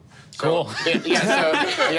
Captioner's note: group laughing